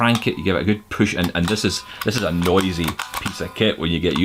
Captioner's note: clicks